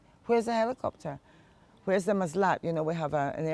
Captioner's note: hebrew